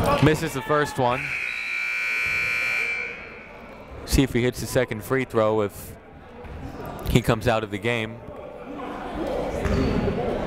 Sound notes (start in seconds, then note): 0.0 shouting; 1.1 buzzer ringing